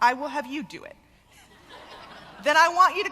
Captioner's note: laughter